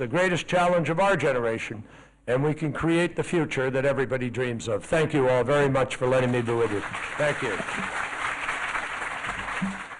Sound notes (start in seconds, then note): 6.0 applause